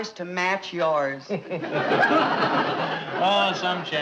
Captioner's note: audience laughing; Brad chuckling